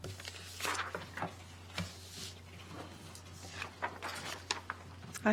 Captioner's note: papers rustling